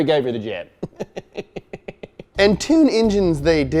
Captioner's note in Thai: หัวเราะ